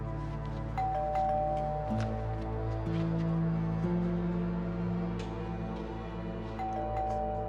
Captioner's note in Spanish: Timbre de la puerta; Timbre de la puerta